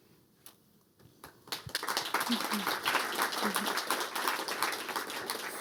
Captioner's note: applause